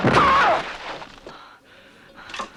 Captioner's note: Hundra groans